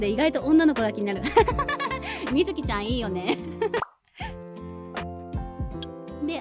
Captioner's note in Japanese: 笑い